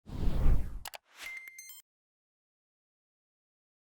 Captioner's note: air whooshing